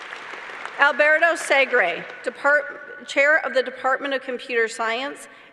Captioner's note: applause